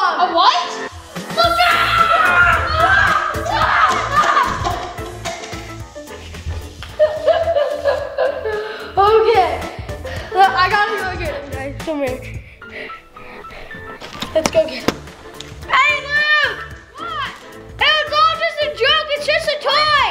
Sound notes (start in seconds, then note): 1.3 hollering; 1.3 screaming; 2.1 cup bouncing; 6.8 chuckling; 15.9 hollering